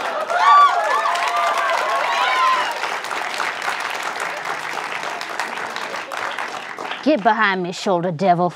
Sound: audience cheers

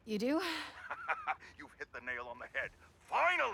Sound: laughs

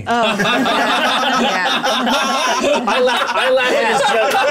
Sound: all laughing

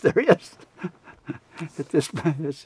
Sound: laughs

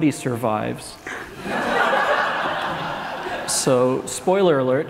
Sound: laughs

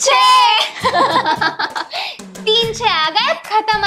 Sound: laughing

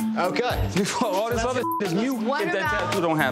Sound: beep

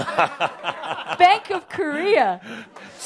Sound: Adamus chuckles

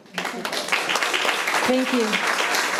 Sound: audience clapping

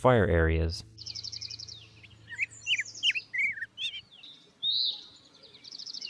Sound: lots of birds singing

